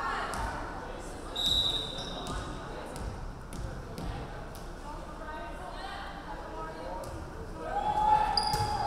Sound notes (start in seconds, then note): 1.4 referee whistling